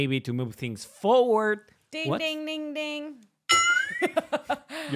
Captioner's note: bell dings